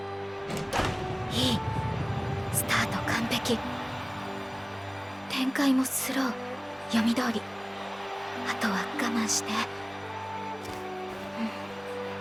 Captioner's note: nibble nibble